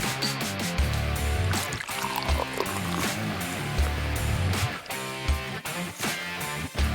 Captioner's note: rock music plays; beer is being poured; rock music plays